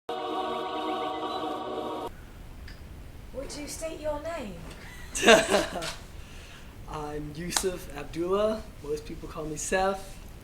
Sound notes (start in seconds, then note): 3.4 in a British accent; 4.8 laughing